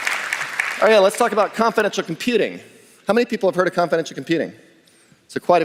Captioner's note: applause